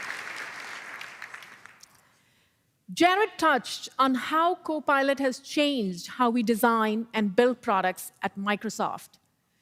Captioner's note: applause